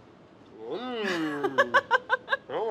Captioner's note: laughs